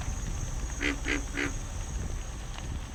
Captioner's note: frog croaking